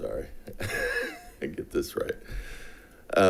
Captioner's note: laughs